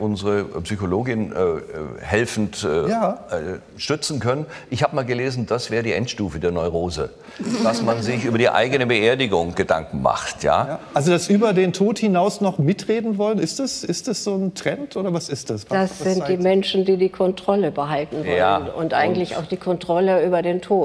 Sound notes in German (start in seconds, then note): 7.4 Lachen